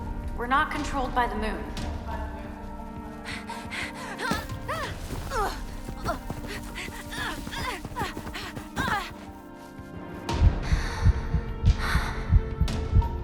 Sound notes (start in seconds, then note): 2.1 suspense music; 3.3 Mischa gasps; 4.0 Mischa grunts; 11.0 suspense music